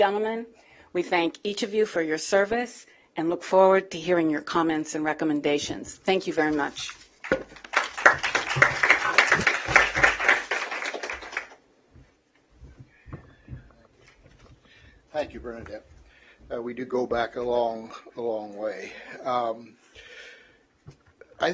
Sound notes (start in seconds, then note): 7.2 applause